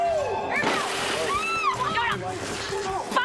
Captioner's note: screaming